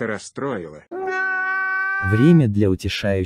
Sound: sounds of crying again

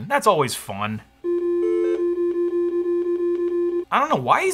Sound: computer pinging

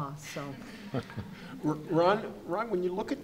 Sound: audience chuckles

